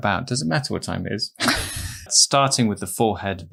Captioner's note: both laughing